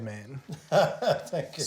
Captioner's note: laughs